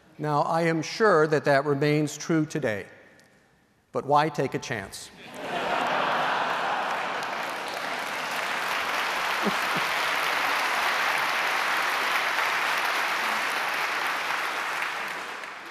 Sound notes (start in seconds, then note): 6.0 laughter; 9.9 applause